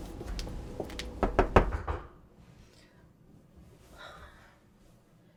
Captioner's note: door knocking